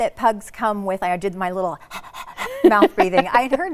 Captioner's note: pants